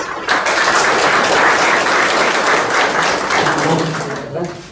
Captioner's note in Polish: oklaski